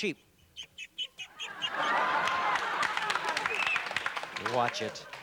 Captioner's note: bird chirping